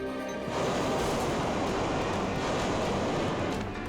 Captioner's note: tower crashing